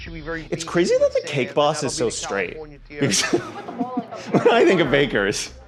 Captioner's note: laughs